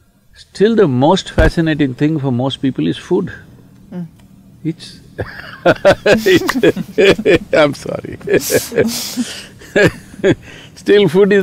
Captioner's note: laughs